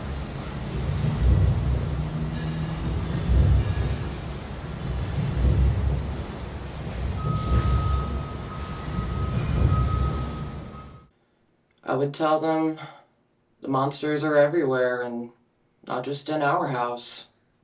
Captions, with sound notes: (metallic clanging continues to echo) I would tell them the monsters are everywhere and not just in our house.